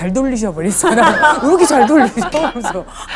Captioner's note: laughing